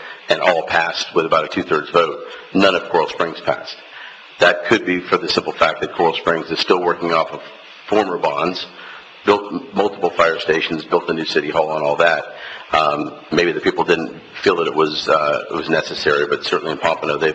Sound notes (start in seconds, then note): none